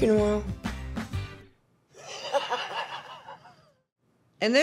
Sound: laughter

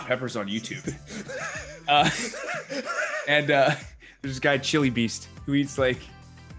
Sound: laugh

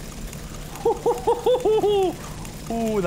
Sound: laughs

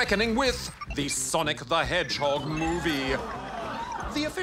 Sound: audience murmurs

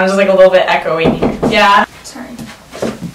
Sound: knock on door

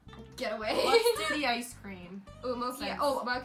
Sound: laughs

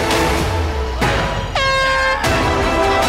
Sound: horn blares; crowd applauds

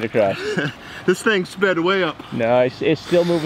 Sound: chuckles

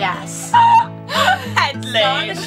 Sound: laughs

